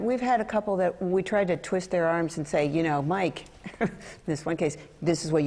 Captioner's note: laughter